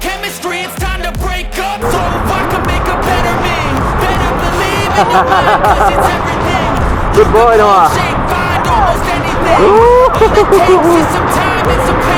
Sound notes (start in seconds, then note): 5.0 laugh